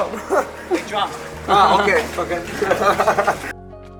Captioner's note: laughs